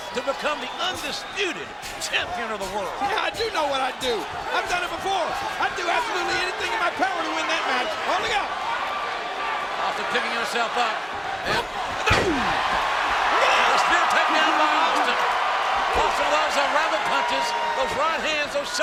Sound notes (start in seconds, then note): 9.1 audience chanting; 12.9 audience cheers; 15.4 audience cheers